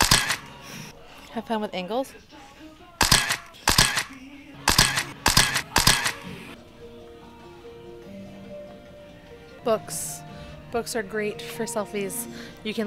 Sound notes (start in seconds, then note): 0.0 camera shuttering; 4.6 camera shuttering